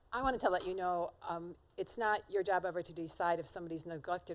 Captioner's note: none